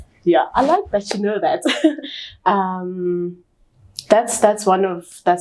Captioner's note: chuckles